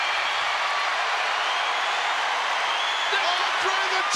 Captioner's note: crowd cheering